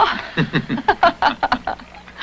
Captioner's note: laughing